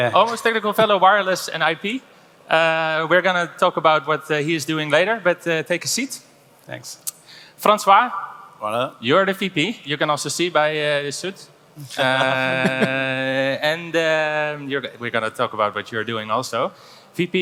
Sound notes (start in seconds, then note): 8.4 speaks foreign language; 11.9 laughing